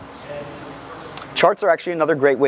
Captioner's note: audience member murmuring